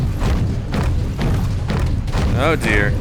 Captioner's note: stomp sounds